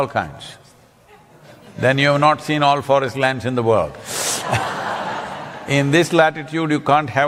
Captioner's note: laughter